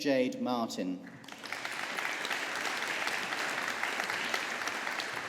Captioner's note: audience applauding